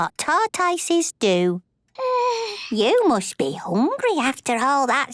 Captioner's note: yawns